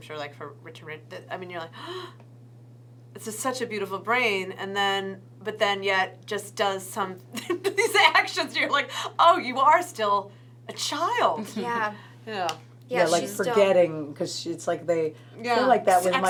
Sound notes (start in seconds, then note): 1.7 gasp; 7.3 laughs